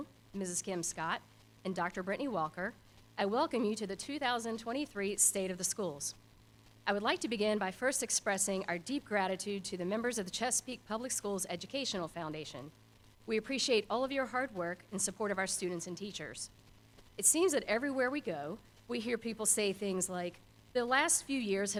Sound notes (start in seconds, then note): none